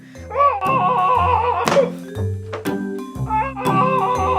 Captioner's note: yells and hammers